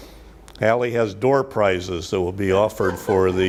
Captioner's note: audience laughs